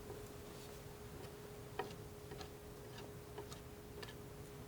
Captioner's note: tapping